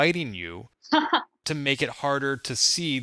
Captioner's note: laughing